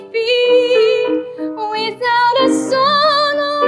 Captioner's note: none